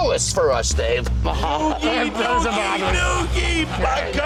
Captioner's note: laughing